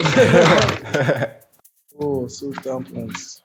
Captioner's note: laughter